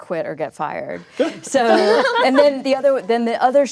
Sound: laughter

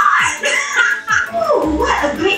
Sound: laughs

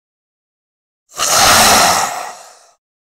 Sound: sound of zombie

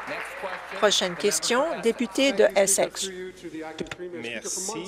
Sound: applause

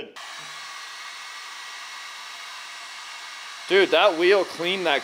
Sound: engine running

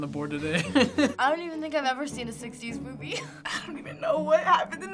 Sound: chuckles; chuckles

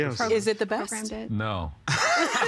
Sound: everyone laughing

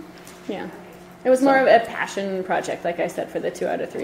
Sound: voiceover

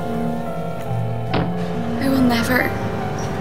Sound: thuds

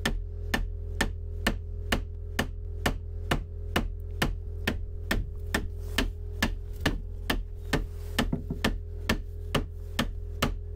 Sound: hammering

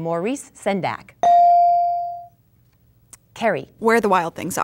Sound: dinging

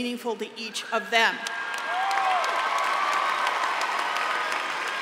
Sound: applause

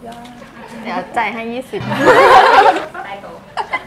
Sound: laughing

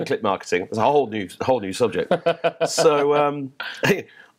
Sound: laughter

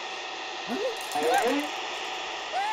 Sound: gasping

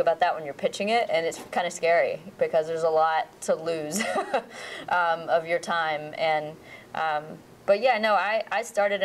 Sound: laughs

